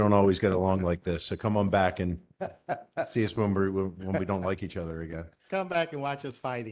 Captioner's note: laughter